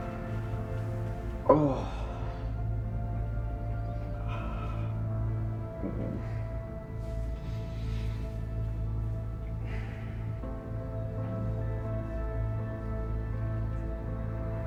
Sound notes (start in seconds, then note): 2.5 gentle music continues; 10.0 Jack sighs; 10.8 gentle music continues